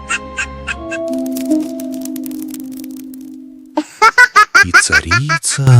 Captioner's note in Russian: смех